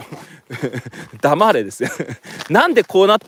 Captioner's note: laughs